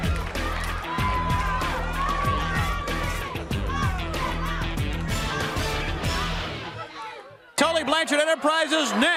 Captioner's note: crowd cheering